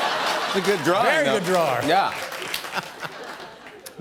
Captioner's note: laughs